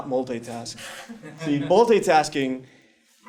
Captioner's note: laugh